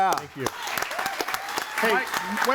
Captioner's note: audience applauds; audience applauds and cheers